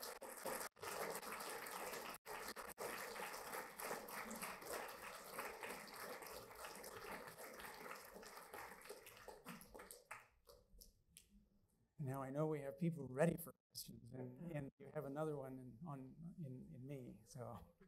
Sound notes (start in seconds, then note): 10.8 applause